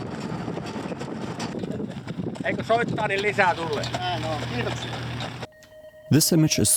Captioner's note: horse walking, finish speaking